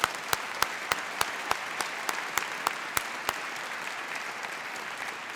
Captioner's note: applause